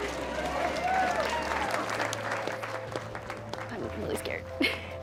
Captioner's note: cheering and applause